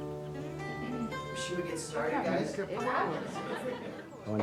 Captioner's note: people chatting